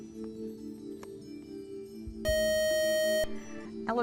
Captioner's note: buzzer